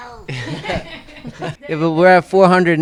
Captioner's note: all laughing